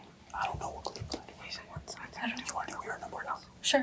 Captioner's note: group chattering off mic